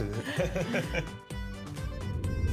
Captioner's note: laughs